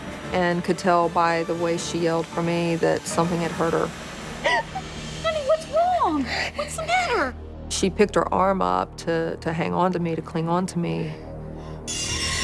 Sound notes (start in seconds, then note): 4.4 crying